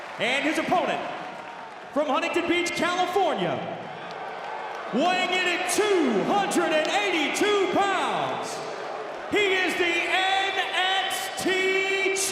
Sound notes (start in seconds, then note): 4.0 audience jeers